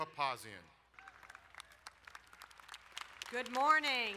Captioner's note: crowd applauding